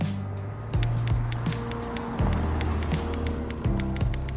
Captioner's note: typewriter tapping